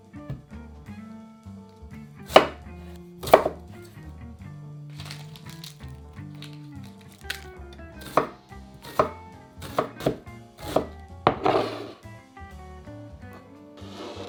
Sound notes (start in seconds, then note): 2.2 knife slice